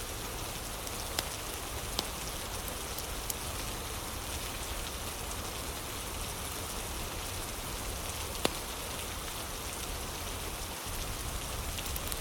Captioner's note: fire crackling